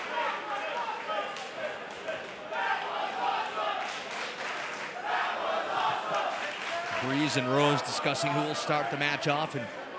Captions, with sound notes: (crowd claps and chants) Breeze and Rose discussing who will start the match off.